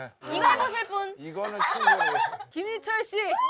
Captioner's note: giggle